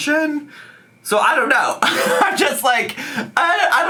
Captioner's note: laughing